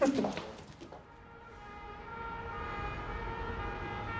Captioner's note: police sirens